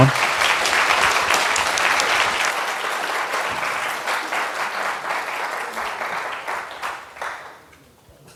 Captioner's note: applause